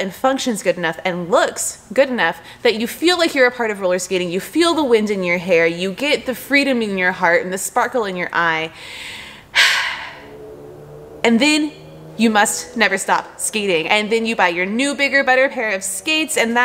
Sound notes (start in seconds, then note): 8.7 deep breath